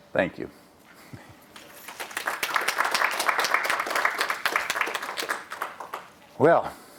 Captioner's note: applause